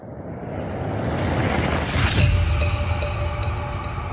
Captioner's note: dramatic whooshing; intriguing music